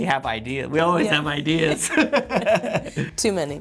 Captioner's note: both chuckling